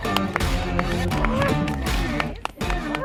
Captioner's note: claps